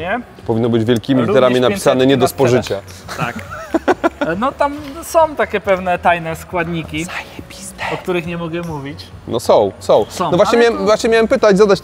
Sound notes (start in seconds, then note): 7.1 whispers